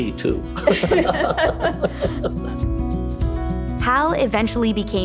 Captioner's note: both laughing